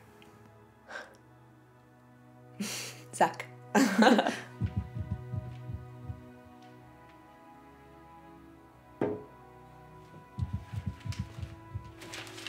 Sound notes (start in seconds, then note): 0.2 gentle music; 3.7 laughs; 4.7 table wobbling; 10.3 table wobbling